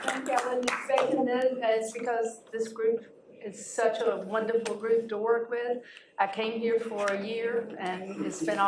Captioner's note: applause